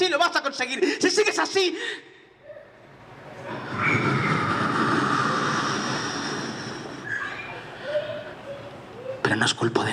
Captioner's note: blows